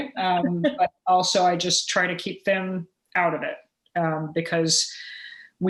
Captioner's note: laughter